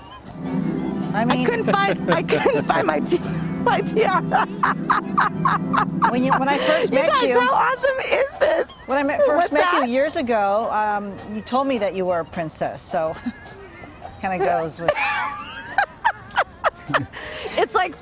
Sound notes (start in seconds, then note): 14.3 laughter